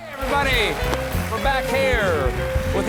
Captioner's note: applause